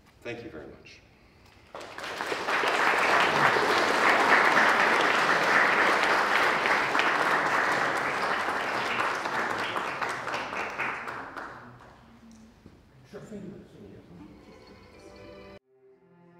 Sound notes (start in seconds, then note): 2.1 applause